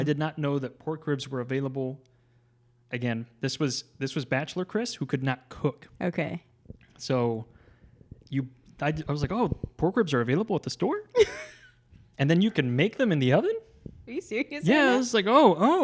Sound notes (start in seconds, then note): 11.1 laughs